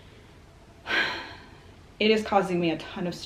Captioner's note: sighs